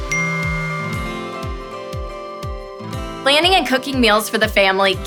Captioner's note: phone buzzing